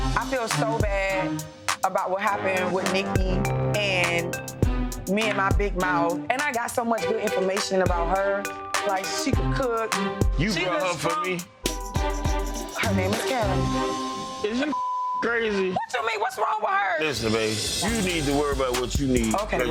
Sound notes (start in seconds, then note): 13.3 beep